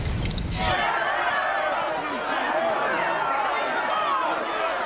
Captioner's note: all shouting